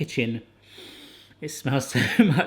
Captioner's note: inhaling deeply